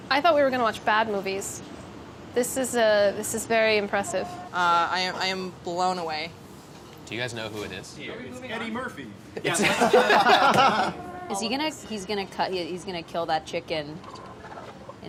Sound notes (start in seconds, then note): 9.5 laughing